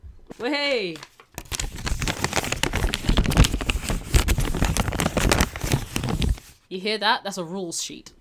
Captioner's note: paper rustling noises